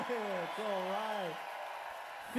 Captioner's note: cheers and applause